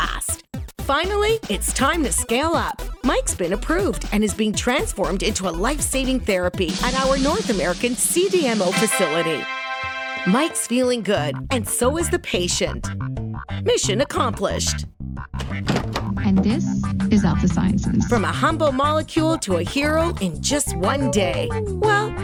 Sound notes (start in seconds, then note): 15.4 opening door